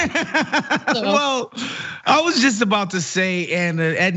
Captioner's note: laugh